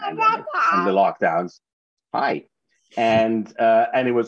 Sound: babbles

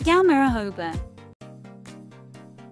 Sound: Georgian

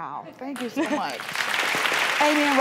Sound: audience claps

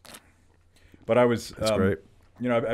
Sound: swallowing

